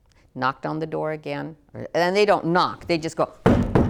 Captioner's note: bangs